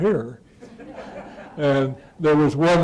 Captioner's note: laughter